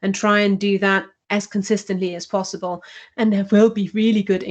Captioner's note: audio distorted